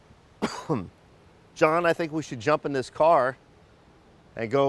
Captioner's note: coughs